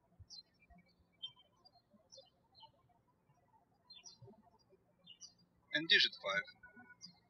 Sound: birds chirping

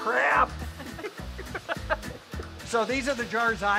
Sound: everyone laughing

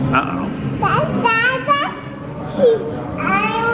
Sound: babbling

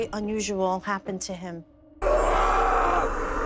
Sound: shouting

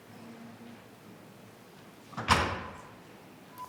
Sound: speaking faintly

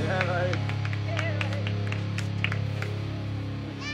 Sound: applause

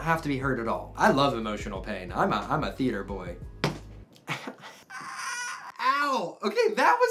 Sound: slams elbow

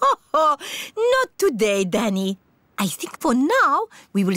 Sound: laughs

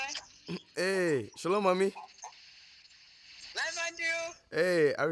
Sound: speaks foreign language

